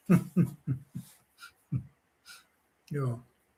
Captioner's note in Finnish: naurua